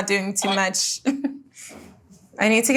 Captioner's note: Jordyn laughs